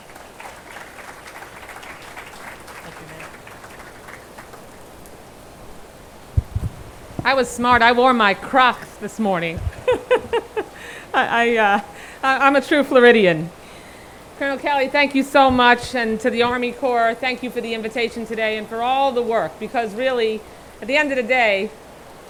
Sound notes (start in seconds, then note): 0.0 attendees applauding; 12.4 laughing